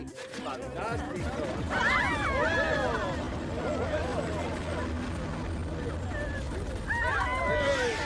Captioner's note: screaming